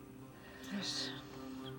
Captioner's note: murmuring